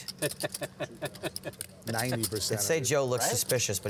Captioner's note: laughter